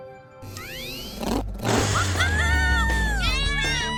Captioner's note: rocket bike engine